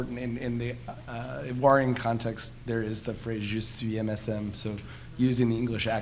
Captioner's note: speaking foreign language